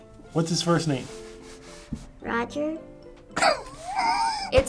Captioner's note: laughs